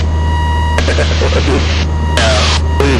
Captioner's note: laughing